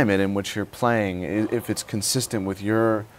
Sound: sighs

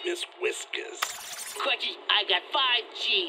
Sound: tape whirring

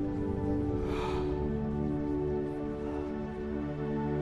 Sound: Capa exhaling

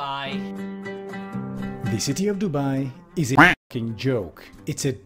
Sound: quack

